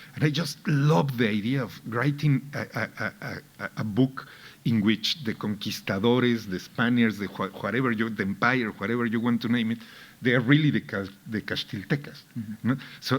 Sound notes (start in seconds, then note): none